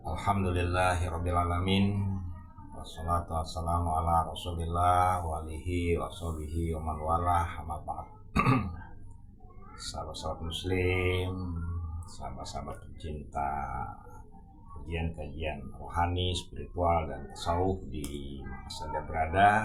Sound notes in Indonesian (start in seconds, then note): 8.3 berdehem